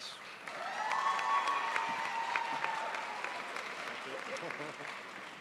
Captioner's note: crowd applauds